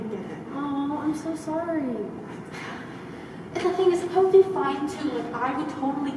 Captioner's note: sigh